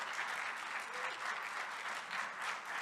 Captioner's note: audience applauding